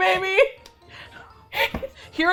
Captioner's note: both laugh